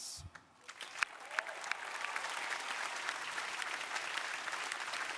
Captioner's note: crowd applauding